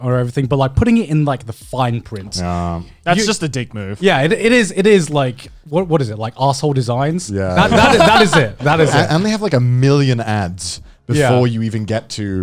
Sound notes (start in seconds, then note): 7.6 chuckling